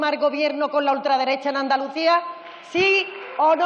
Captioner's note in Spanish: Aplausos